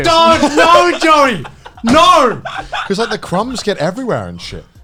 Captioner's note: laughs